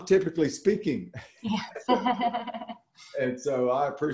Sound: laughing

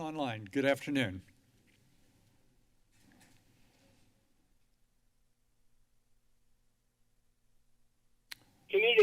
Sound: silence

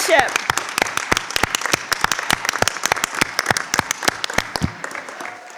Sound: crowd cheering and clapping

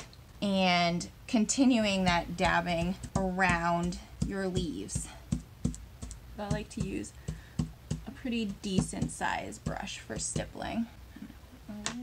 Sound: tapping

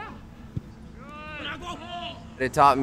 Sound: people shouting

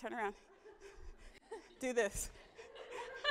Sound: audience laughing

